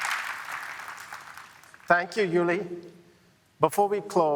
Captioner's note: cheering, applause